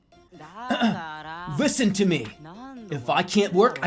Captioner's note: clears throat, anime protag voice